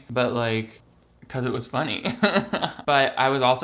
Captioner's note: laughs